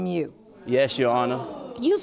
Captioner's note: audience gasps